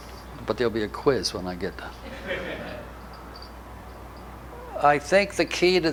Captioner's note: audience laughter